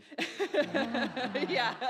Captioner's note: audience laughs